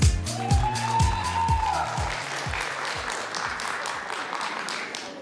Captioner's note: applause